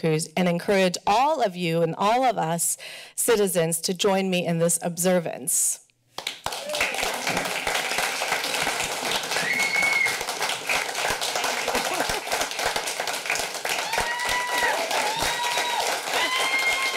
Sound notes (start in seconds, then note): 6.2 applause; 9.6 clapping and Cheering